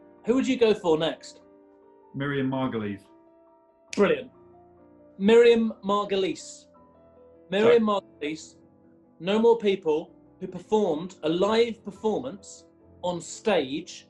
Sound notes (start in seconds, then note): 3.9 clicks finger